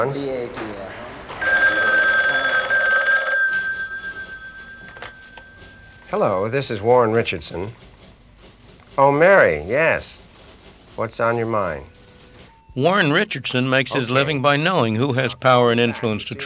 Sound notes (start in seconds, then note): 1.3 telephone rings